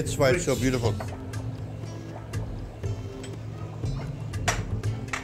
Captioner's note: pot bubbling